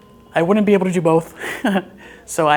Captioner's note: chuckles